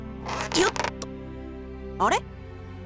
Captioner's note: casual pulling grunt